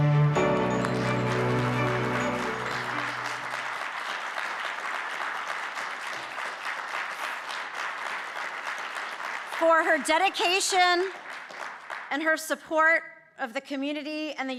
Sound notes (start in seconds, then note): 0.0 dramatic music; 0.1 audience clapping